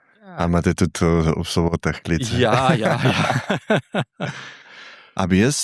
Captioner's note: laughs